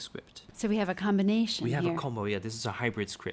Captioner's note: voiceover